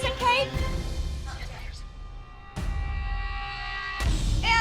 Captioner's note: whispers